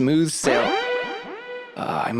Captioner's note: alarm starts going off